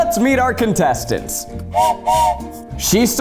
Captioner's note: whistle blows